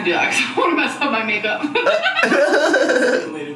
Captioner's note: laughs